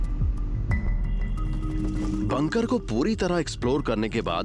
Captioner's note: narrating